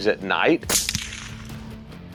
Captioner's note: gunshot